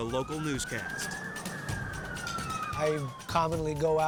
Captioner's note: sirens blaring